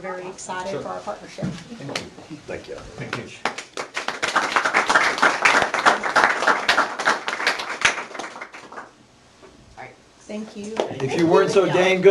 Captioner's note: applause